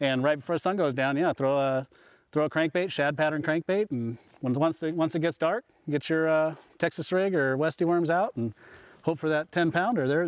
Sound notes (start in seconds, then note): none